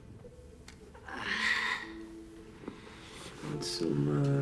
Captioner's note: winces